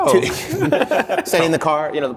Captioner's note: laughter